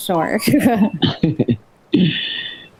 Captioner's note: laughing